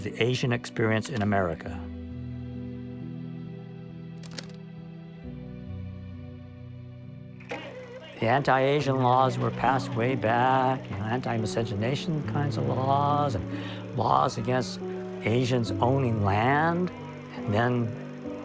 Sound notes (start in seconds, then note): 4.2 camera clicking